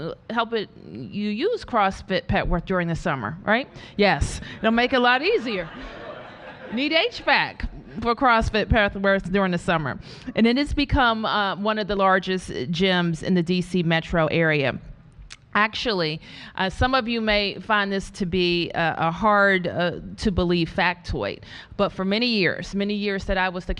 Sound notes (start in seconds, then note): 5.1 laughter